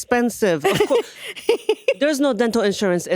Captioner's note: laughing